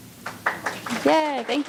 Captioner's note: audience applauding